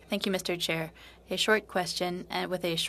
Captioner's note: speaking French